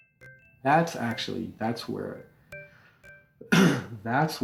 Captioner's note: clears throat